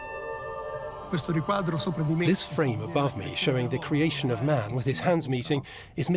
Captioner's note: in Italian